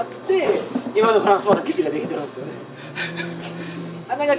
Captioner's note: laughs